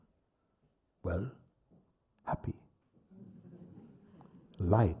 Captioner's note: laugher